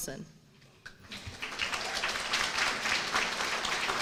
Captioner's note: applause